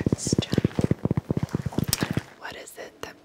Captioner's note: taps block